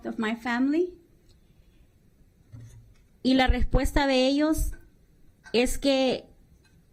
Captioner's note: speaking spanish